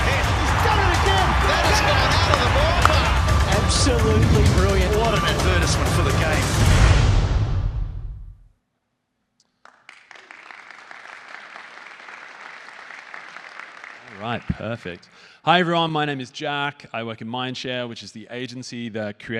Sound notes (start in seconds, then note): 9.5 applause